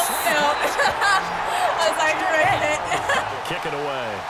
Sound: laughs

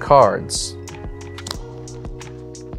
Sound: cards slapping on table

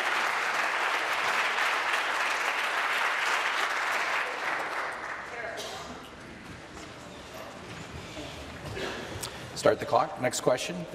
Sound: applause

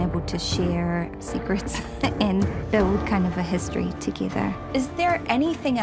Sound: chuckles

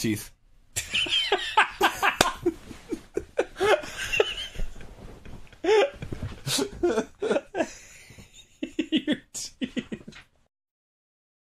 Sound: laughing

